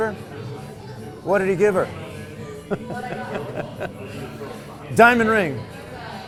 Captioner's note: laughs